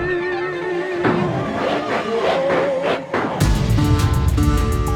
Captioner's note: record scratching; bluesy music continues